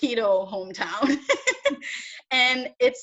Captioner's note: laughs